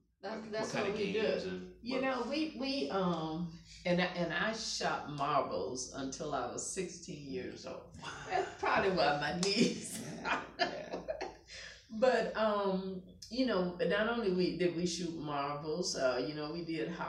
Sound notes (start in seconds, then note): 9.5 laughing